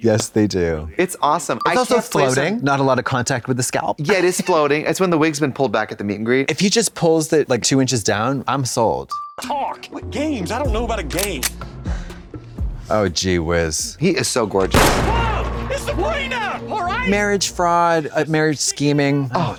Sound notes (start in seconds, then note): 14.7 gunshot fires